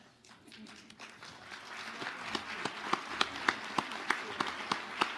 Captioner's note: audience applauding